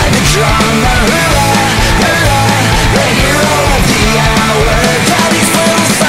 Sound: bang bang

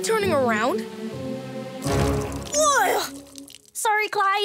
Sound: peeing, disgusted groan

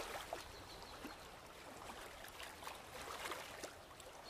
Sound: birds chirping

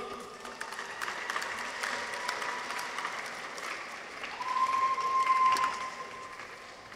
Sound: audience applauds; people cheer

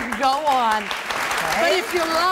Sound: audience claps

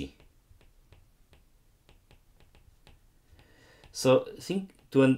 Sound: screen tapping

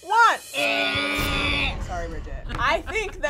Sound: timer beeping; imitates buzzer

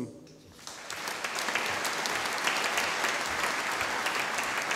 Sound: audience applauding

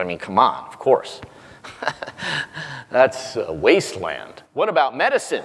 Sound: laugh

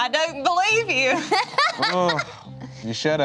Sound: laughs

